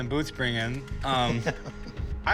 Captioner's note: laughs